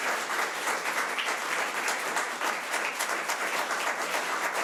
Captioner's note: audience applause